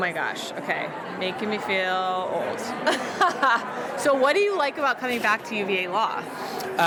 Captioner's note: laughs